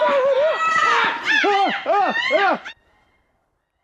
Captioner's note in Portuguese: gritando; imitando corvo